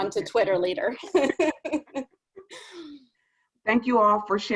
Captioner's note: laughter